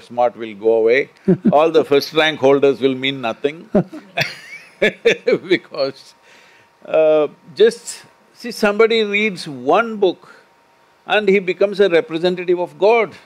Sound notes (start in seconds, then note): 1.2 Manish Laughs; 3.6 both laugh